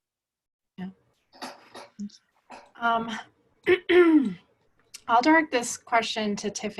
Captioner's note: clears throat